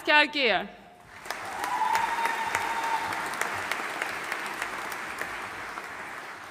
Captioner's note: audience cheering and applauding